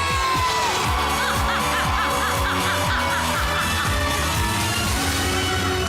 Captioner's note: audience cheering; melai laughs